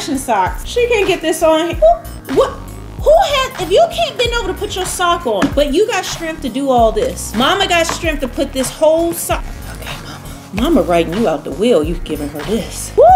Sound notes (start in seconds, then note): 9.8 whispers; 12.9 sighs